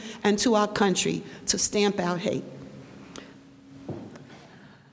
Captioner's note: none